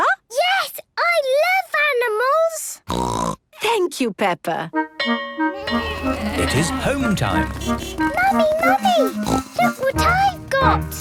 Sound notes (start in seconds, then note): 2.9 snorting; 5.0 bell clanging; 5.5 honking